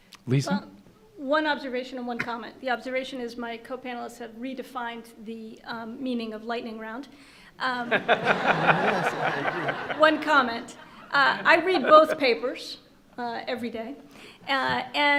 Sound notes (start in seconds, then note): 7.8 laughter